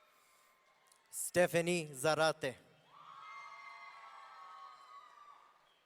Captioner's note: audience cheering